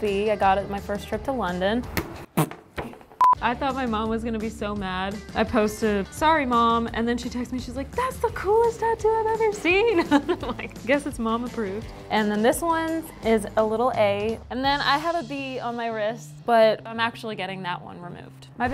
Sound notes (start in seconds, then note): 9.7 laughs